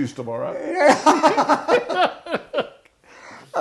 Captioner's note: laughing